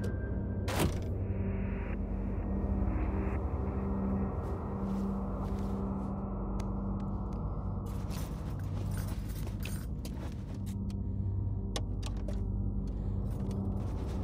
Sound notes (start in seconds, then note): 0.2 ominous music; 0.7 door thuds; 8.0 rattling